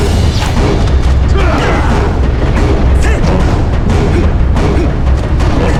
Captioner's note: dramatic music; Ganon and Link grunting